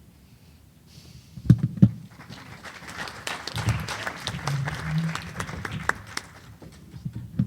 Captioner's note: applause